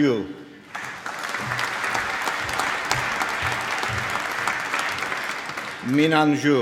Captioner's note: applause